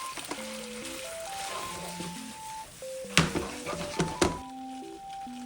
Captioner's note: thumping